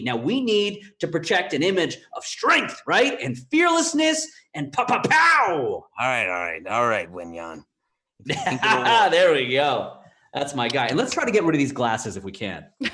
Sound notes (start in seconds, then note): 8.2 laughs